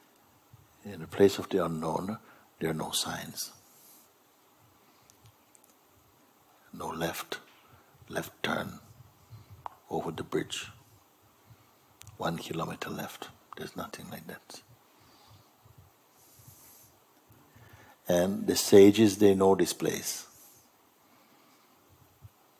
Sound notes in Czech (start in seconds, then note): none